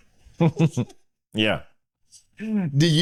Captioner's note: laughing